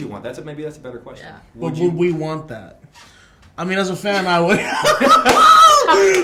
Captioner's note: laughter